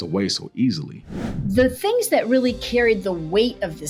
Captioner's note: graphic whooshing